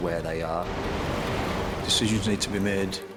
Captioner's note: waves crash